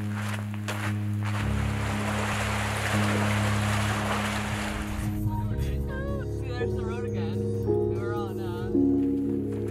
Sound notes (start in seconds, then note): 0.0 peaceful piano music; 0.0 footsteps crunching; 1.7 river sound